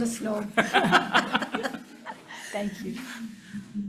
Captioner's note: everyone laughing